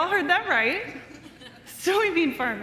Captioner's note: crowd laughing